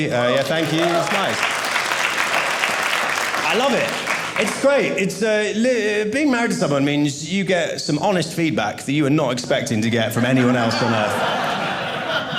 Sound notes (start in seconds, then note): 0.1 audience applauding; 10.2 audience laughing